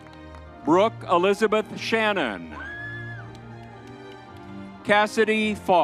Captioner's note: crowd cheering; crowd cheering